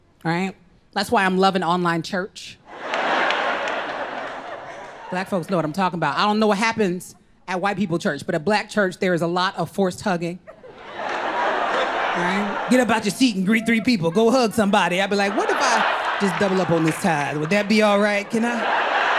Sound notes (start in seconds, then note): 2.6 crowd laughs; 11.7 crowd laughs